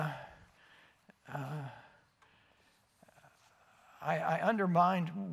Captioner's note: silence